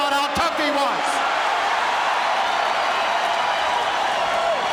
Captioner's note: audience cheering